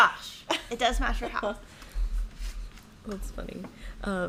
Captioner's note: laughing